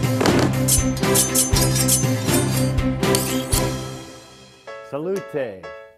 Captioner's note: cutlery clinking